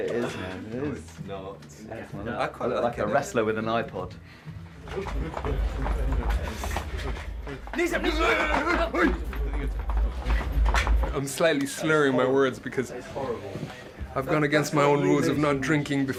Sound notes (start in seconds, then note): 8.6 growling